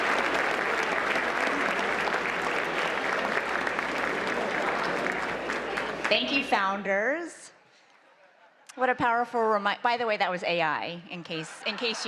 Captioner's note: applause